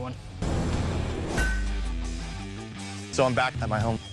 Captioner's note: flames followed by metal clang